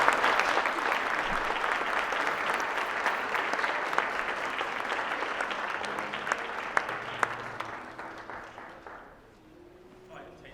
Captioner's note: applause